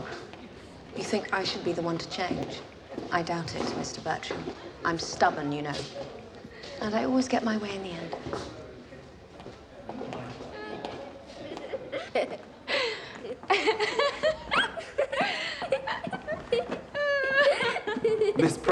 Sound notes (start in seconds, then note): 13.2 both laughing